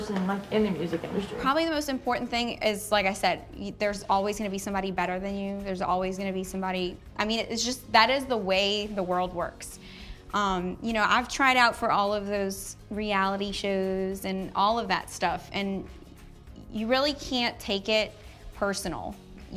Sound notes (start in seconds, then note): none